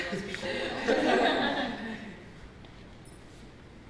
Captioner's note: laughter